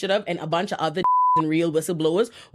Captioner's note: beep